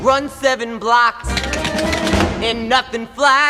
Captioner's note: shoes tapping